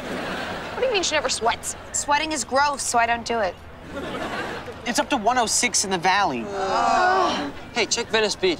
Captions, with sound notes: What do you mean she never sweats? Sweating is gross, so I don't do it. It's up to 106 in the valley. [groaning] Hey, check Venice Beach.